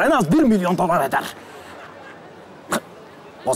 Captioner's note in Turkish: Gülme efekti